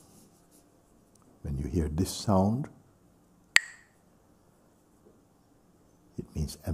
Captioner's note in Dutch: klakt met stokjes